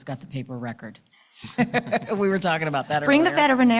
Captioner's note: all laughing